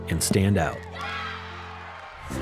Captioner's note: players cheering